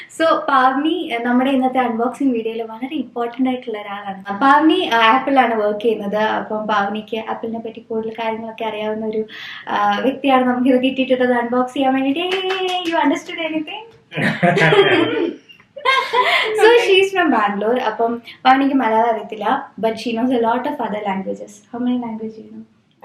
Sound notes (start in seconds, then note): 12.2 applause; 14.2 laughing